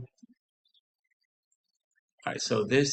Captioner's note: silence